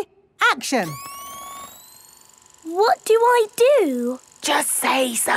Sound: camera whirring; whispering

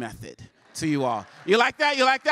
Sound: applause

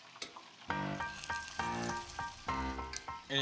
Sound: sizzling

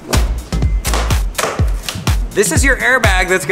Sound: plastic cracking

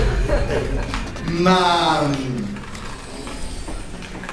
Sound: laughs

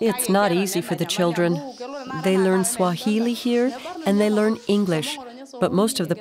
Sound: speaking in foreign language

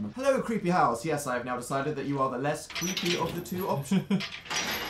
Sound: laughs

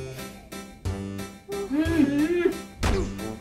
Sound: screaming

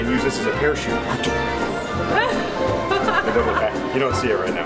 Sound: laughing

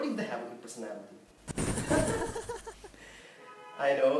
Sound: laughs

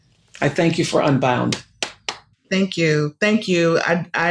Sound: claps

